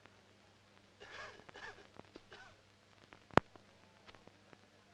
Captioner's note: coughing